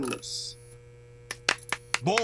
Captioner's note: desus and mero applaud